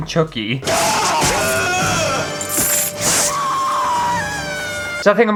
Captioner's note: screaming